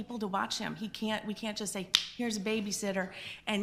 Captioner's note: snapping fingers